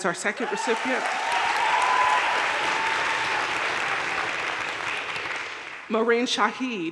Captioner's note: audience cheering and applauding